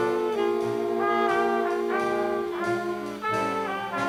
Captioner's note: none